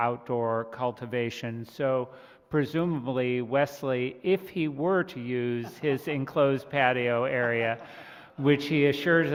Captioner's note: laughter